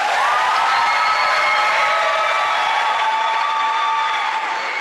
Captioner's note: audience applauding